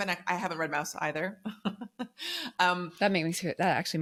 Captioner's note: laughs